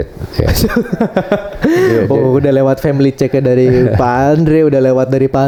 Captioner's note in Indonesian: tertawa